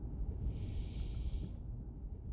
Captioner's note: breathing in